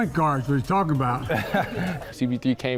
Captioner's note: laughing